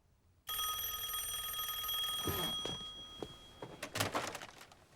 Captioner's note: rings